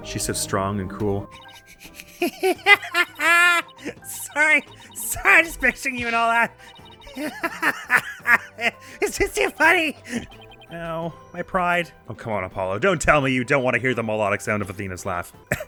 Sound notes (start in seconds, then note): 1.5 snickers, laughs; 7.1 cackles